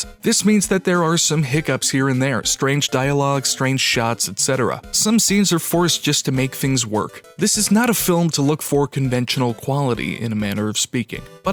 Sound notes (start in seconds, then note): none